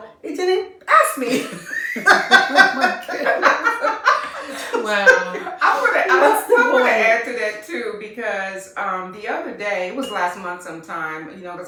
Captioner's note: laughter